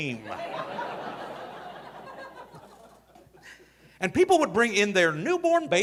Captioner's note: audience laughing